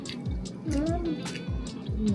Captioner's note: mmm